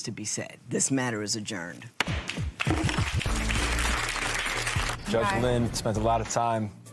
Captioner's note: applause